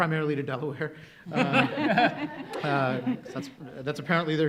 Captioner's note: panelists laugh